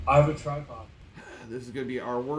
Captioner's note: sighs